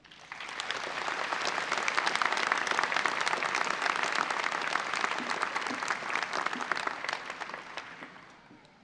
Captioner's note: audience applause